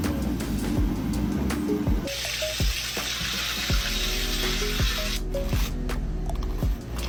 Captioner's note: upbeat music; sizzling sound